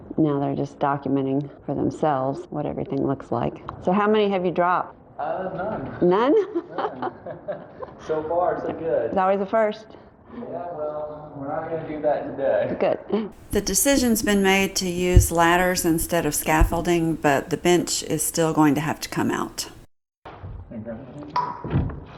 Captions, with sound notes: Now they're just documenting for themselves what everything looks like. So how many have you dropped? Uh...none! [Laughs] None? [Laughing] So far so good. There's always a first! Yeah, well...we're not going to do that today. Good. The decision's been made to use ladders instead of scaffolding but the bench is still going to have to come out. Take that end